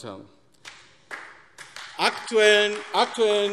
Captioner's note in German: Beifall AfD